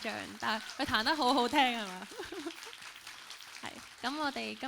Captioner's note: laughs; applauds